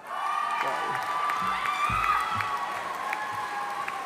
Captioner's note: audience applauding